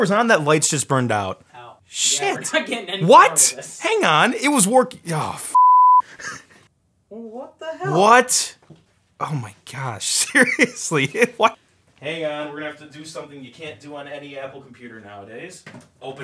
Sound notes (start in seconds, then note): 5.5 beep